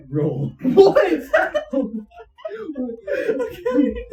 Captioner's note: laughing